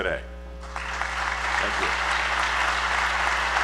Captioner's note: applause